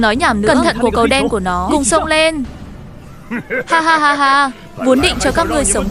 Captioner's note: laughs